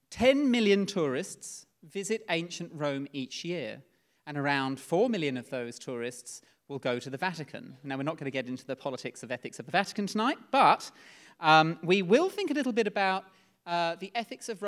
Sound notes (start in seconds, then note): none